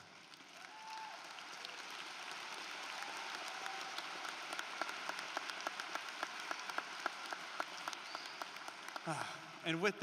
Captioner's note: applause